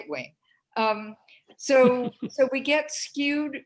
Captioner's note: laughter